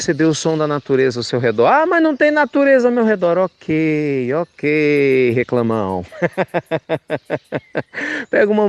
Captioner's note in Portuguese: Risos